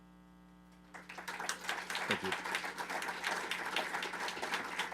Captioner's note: attendees applauding